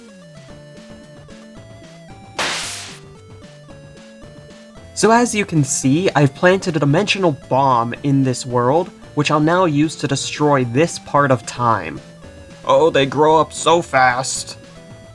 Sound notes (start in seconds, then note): 2.4 teleport Noise